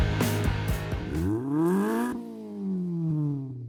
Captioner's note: engine revs